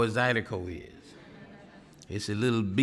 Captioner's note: audience laughing